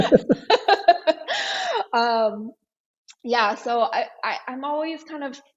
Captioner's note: laughs